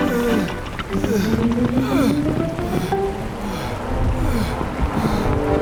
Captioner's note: exhausted grunting